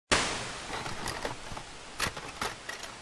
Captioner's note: whooshing